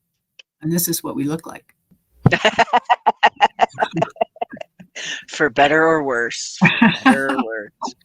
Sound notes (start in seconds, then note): 2.3 laughing; 6.7 laughing